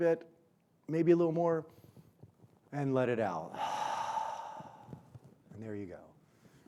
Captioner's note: exhales